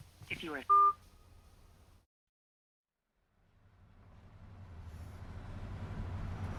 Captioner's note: phone beeping